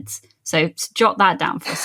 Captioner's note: laughs